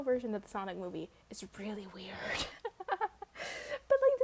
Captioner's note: laughs